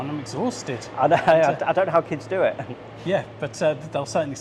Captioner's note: laughs